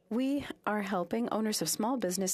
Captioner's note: speaking French